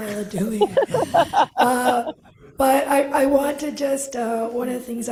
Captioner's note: laughter